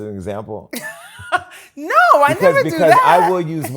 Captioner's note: laughs